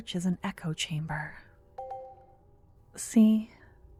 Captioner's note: positive sounding chime in the distance